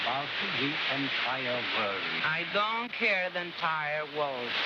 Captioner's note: none